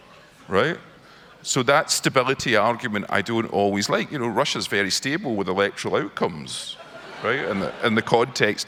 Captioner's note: crowd laughs